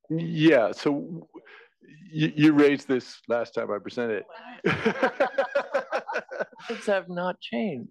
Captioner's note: laugh